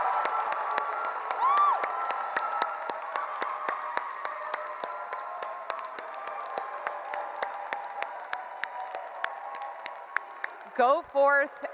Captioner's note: cheers and Applause